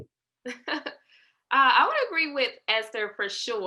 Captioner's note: laughter